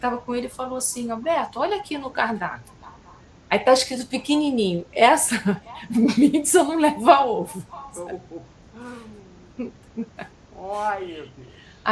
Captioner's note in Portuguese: risadas